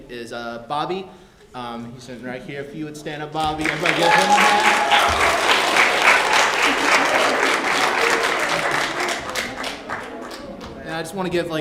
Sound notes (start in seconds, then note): 3.5 applause